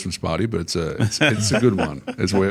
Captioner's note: laughter